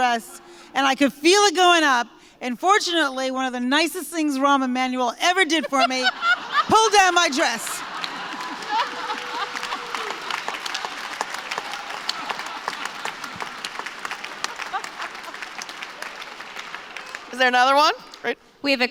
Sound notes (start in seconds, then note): 5.6 laughter; 7.6 applause; 8.8 laughter